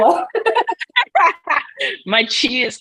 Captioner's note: both laugh